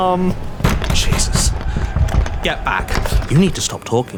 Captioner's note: mob banging